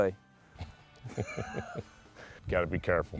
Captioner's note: laughing